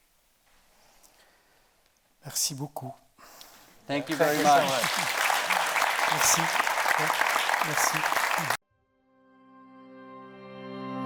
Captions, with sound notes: - Merci beaucoup. - Thank you very much. - Thank you so much. (audience applauding) - Merci. Merci.